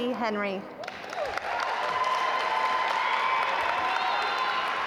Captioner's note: audience applaud